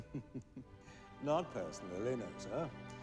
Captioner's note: chuckles